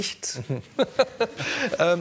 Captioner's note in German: Lachen